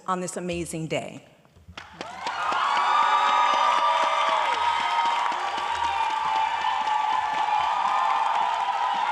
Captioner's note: audience applauding